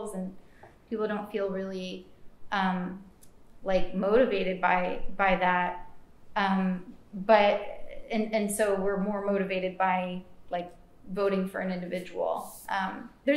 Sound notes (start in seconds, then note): none